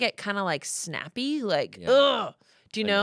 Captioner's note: groans